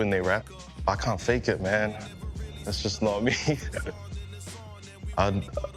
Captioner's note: chuckles